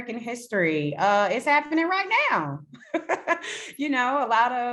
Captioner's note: laughs